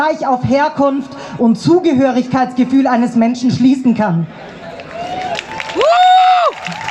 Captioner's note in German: Applaus